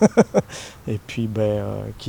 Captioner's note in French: rire